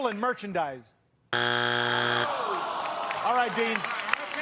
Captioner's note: buzzer sounds